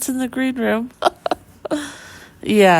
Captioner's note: laughing